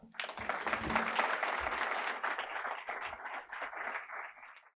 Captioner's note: audience applauding